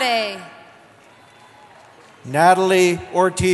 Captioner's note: cheering